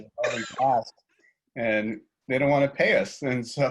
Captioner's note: chuckles; speaks faintly